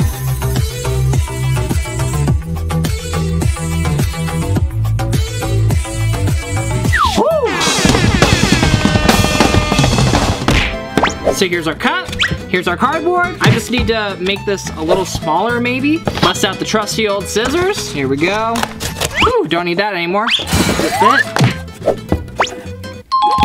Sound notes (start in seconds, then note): 0.1 upbeat music; 6.9 wooing; 7.8 drumming on table; 20.4 smashing; 23.2 dinging